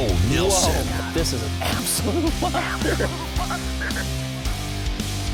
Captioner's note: voiceover; energetic rock music